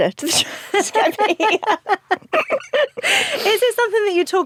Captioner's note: both laugh